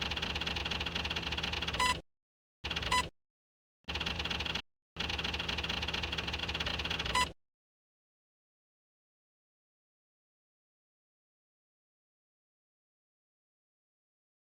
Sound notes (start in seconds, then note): 0.1 readout typing; 2.8 readout beeps; 7.0 readout beeps